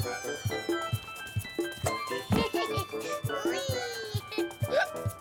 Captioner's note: light upbeat music; boy squeals; boy laughs